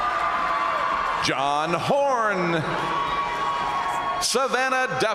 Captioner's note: crowd cheering